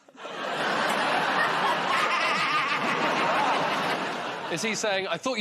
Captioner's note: laughter